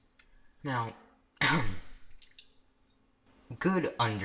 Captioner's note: ahem